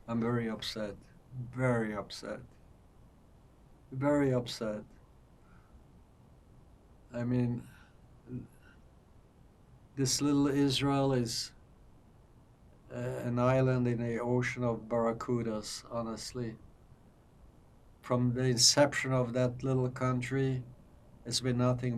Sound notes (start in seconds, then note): none